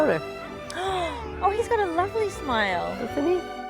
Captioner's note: gasping